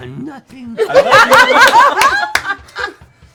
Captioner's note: laughter